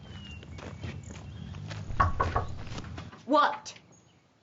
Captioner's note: knocking